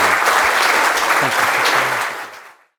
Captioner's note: audience applauds